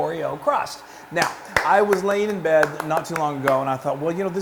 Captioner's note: applause